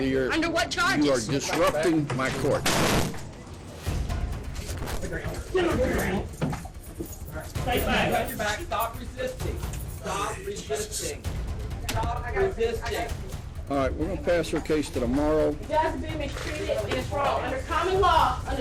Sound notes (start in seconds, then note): 2.6 thuds; 7.6 indistinct chatter